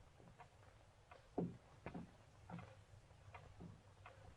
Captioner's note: clock ticking